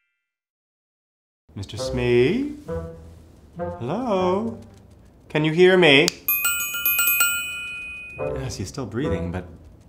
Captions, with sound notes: - Mr. Smee? Hello? Can you hear me? (Tink bells) Yes, he's still breathing but.